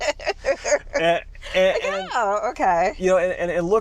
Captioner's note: laughing